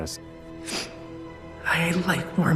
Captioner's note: sniffs